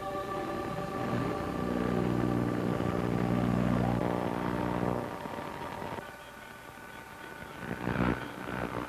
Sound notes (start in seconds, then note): 0.9 radio static